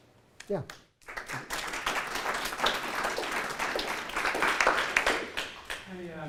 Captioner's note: applause